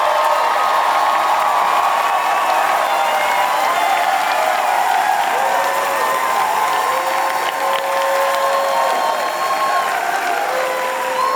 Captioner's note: applause and cheers